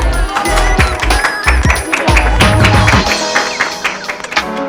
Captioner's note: applause